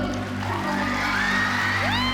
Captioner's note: applause